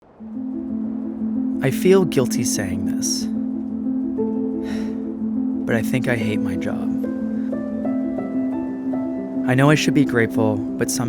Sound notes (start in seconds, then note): 0.2 anticipatory piano music; 0.2 wind rustling; 4.6 sighs; 7.9 heartfelt piano music